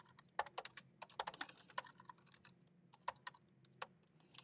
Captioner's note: keyboard clacking